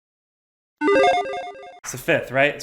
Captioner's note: logo beeps